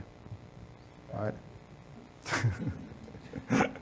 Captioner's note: laughs